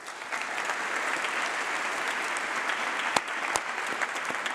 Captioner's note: applause